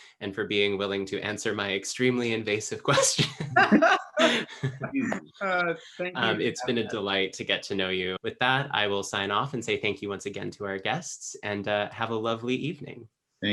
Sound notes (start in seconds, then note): 2.9 all laugh